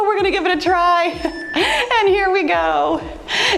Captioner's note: timer beeps